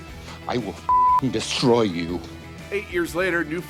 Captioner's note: beep